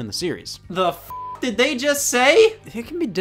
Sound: beep

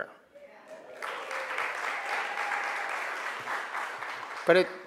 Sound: crowd applauds

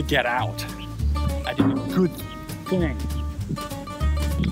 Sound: distant metal clunk

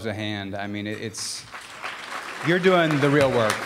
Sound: applause

